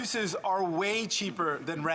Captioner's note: speaking French